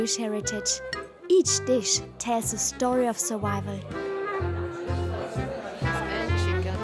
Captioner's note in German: undeutliches Gerede